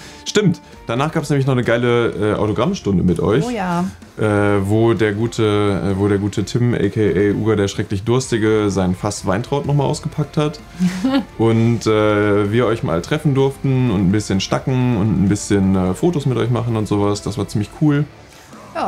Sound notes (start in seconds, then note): 10.7 chuckles